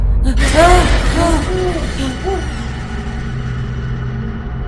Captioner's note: peter startled